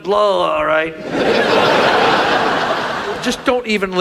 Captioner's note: audience laughs